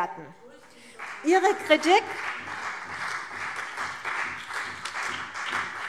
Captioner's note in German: Vereinzelter Beifall CDU und BÜNDNIS 90/DIE GRÜNEN